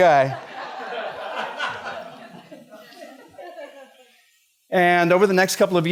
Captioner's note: laughter